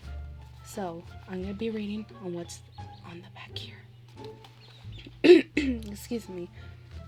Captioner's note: clears throat